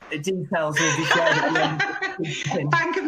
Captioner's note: laughter